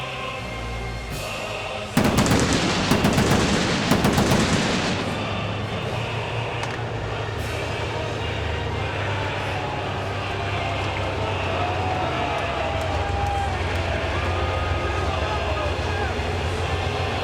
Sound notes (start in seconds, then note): 2.0 fireworks booming; 2.3 tank engine rumbling